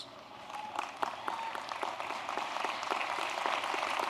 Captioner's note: applause